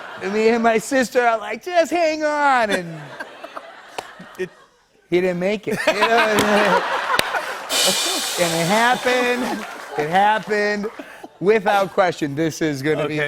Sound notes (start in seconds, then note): 0.0 laughter; 5.6 laughter; 7.4 rim shot